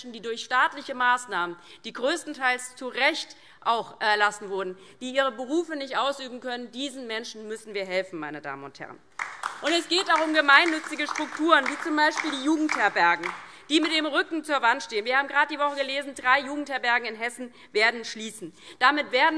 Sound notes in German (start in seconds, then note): 9.1 Beifall DIE LINKE